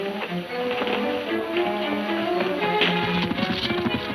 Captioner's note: hooves thudding